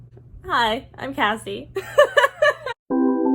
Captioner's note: laughing